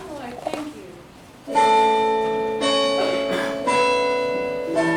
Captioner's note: clock chimes